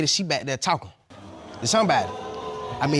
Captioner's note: audience booing